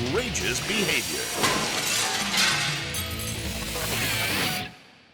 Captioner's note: glass shatters